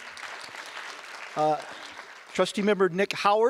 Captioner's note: audience applause